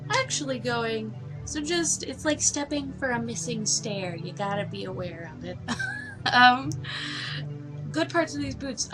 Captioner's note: laughs